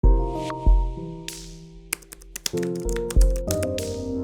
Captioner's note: typing on Keyboard; background Music